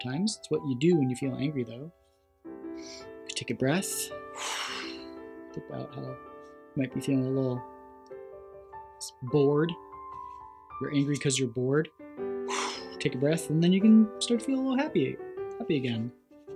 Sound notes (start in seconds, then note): 4.2 exhales; 4.2 inhales; 12.4 exhales